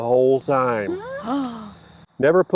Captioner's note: group gasps